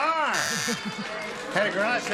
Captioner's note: buzzing